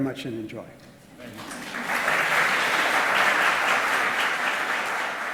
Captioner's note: audience applause